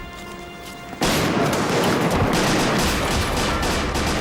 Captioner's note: gunshots